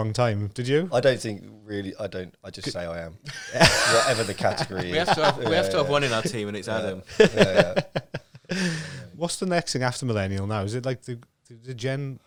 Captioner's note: laughing